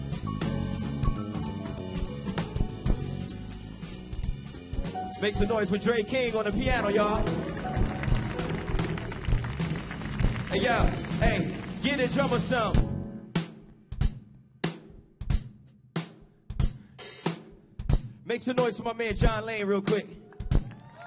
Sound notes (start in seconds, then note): 8.2 audience applauding; 8.2 audience cheering; 14.5 uptempo drum music